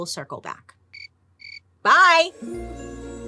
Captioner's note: insects chirping; mysterious eerie music